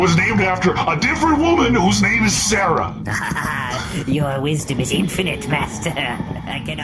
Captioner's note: laughs